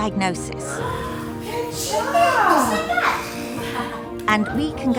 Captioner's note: gasps; all laughing